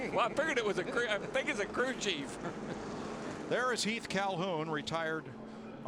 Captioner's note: laughter